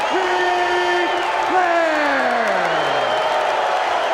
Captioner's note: crowd boos